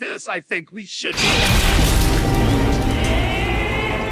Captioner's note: bang